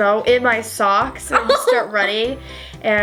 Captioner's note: laughs